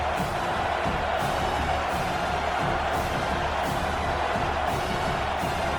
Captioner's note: crowd Noises